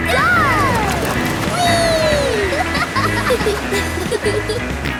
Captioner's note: laughing